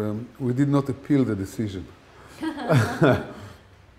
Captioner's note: laughter